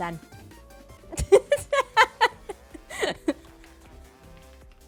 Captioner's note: laughs